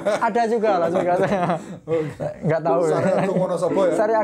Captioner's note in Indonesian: ketawa